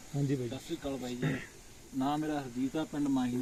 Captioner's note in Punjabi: ਗਲਾ ਸਾਫ਼ ਕਰਨ ਦੀ ਅਵਾਜ਼